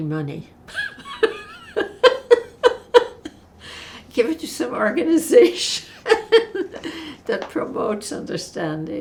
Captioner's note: laughing